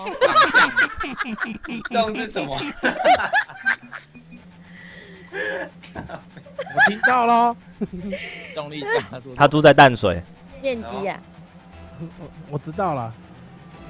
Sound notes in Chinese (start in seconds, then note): 4.6 吸氣